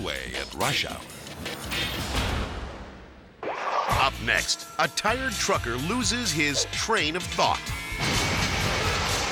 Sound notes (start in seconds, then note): 3.5 logo whooshes